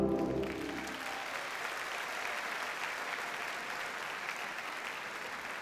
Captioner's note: audience cheers and applauds